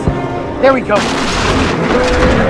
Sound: crash Sounds

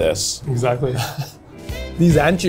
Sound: chuckles

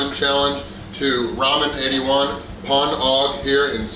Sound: speaks in foreign language

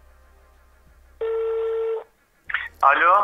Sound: phone ringing sound

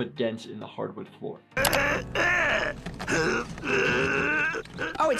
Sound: Skips grunting

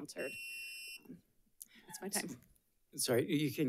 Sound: timer beeps

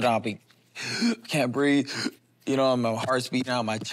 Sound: gasps

